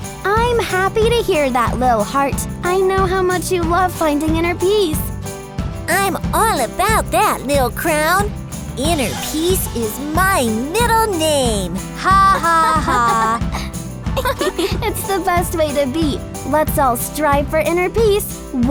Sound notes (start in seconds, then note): 12.0 yogis laughing